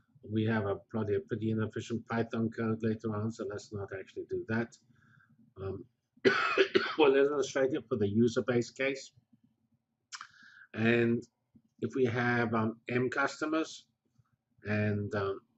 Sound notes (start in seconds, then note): 6.2 cough